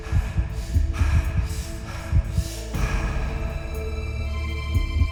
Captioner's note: heavy breathing, heart beating